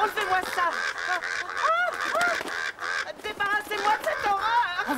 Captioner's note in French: en hurlant